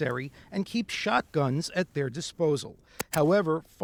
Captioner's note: gun popping